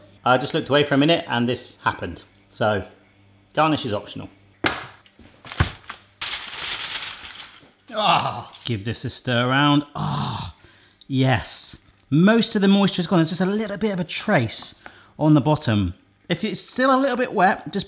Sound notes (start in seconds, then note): 4.7 rack thuds; 5.3 foil rustling